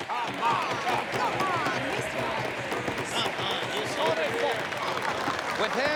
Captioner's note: people clapping